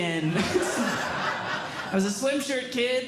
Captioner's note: audience Laughing